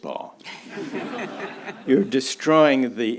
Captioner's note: audience laughs